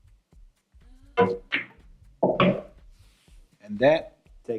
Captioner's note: balls hitting